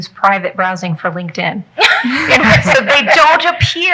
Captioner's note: people laughing